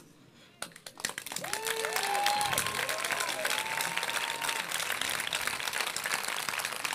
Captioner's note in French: Applaudissements